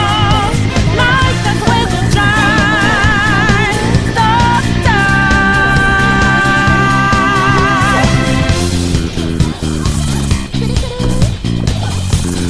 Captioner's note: sighs in valorant